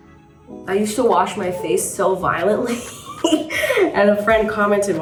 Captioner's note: gentle music; chuckles